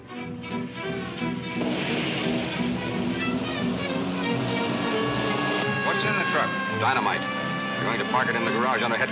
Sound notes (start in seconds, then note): 0.2 lively music; 4.3 siren wails